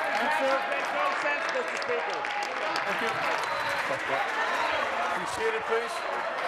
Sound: applause

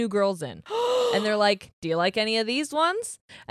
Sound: gasps

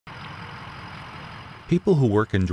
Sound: sound of vehicles

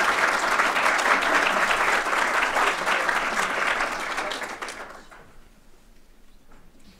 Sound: applause

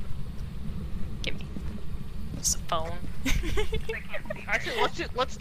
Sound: laughs

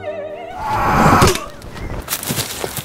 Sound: approaching screaming; fatal leaf chunching

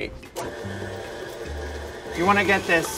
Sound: mixer whirring

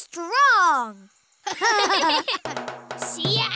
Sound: laughing

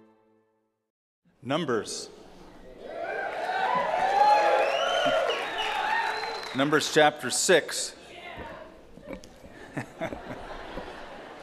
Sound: cheers and applause; laughter

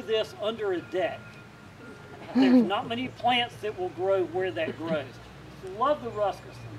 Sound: laughter

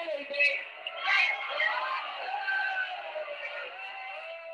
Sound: crowd jeering

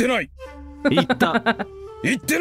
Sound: chuckles

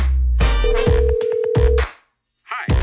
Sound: dialing

